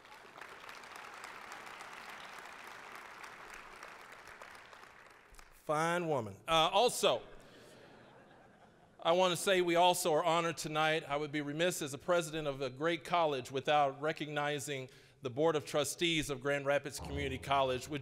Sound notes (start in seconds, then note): 0.0 applause; 6.1 audience laughing